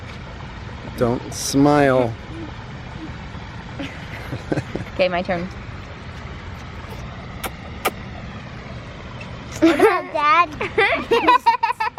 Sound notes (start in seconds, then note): 3.8 laughs; 10.7 laughs